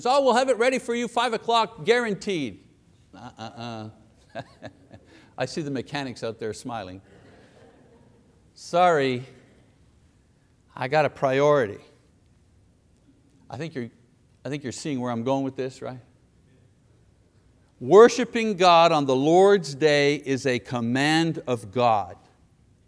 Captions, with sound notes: Oh, we'll have it ready for you five o'clock, guaranteed, uh uh uh [laughs], I see the mechanics out there smiling. Sorry, I got a priority. I think you're seeing where I'm going this, right? Worshiping God on the Lord's day is a command of God.